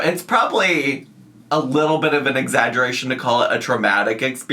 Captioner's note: none